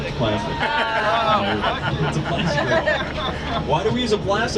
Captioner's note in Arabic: الركاب يضحكون